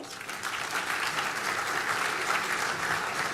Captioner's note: applause